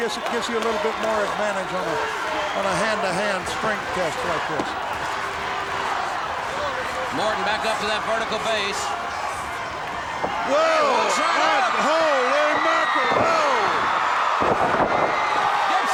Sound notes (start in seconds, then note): 6.2 audience chanting; 13.7 audience cheering